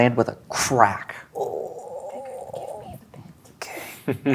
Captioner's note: whispers; chuckles